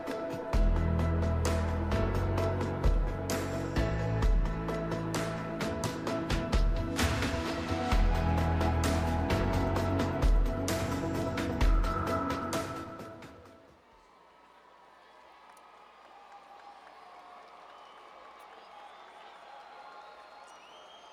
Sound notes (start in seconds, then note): 17.9 cheers